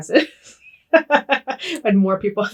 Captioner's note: both laughing